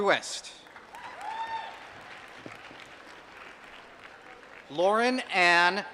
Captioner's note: applause